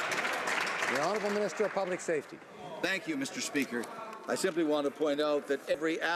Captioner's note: some Applause